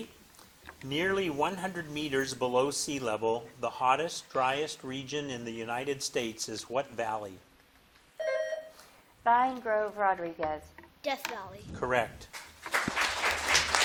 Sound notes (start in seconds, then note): 8.2 bell dinging; 12.3 audience clapping